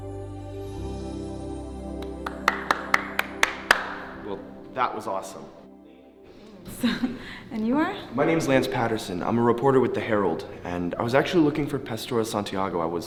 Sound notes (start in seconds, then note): 2.0 Lance clapping